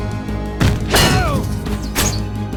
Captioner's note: yells